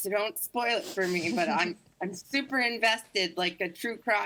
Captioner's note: chuckles